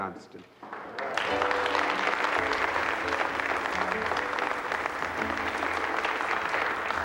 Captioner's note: group applauding; bright music